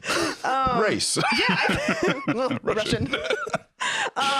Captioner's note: laughs